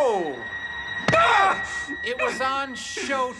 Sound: screams in pain

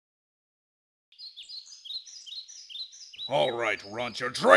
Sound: birds chirping

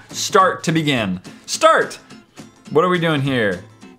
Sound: in excited Matthias voice

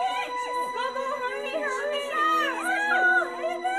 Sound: indistinct shouting

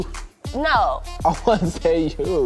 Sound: laughs

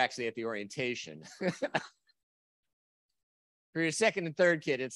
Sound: chuckles

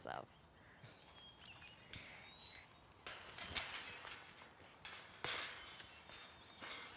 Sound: gate creaking

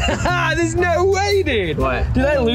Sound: laughs

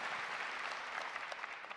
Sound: applause

